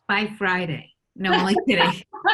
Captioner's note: all laugh